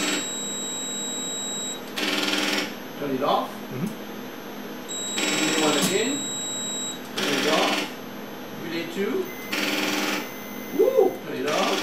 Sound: beeping stops

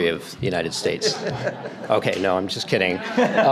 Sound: audience laughter

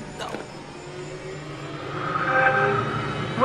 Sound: Xbox startup sound

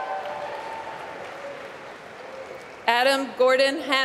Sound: applause

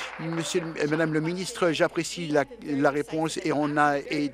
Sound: applause

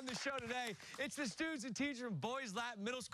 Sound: cheers and applause

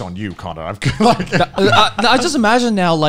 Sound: men laughing

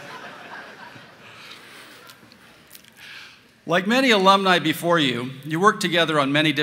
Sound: laughter

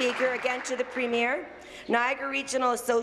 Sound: applause

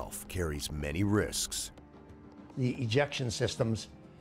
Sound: voiceover

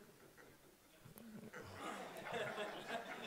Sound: laughing

